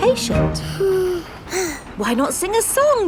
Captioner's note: both sigh